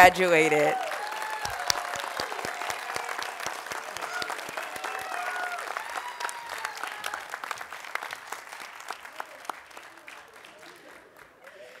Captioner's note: applause, Cheering